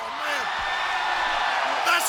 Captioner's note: audience cheers